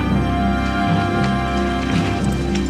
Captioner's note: Aplausos